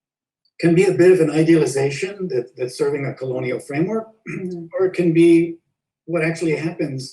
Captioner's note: clears throat